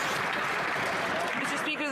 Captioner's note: some Applause